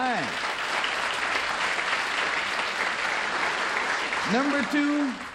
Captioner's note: applause